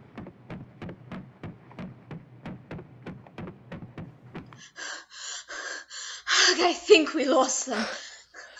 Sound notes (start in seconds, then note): 0.0 footsteps as the party runs; 4.4 footsteps stop; 4.7 panting